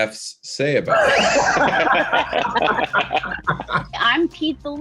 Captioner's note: Aidy, Brandon, and Randal laugh